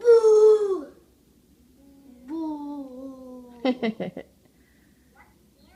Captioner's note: adult chuckles